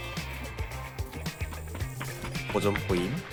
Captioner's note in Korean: 발소리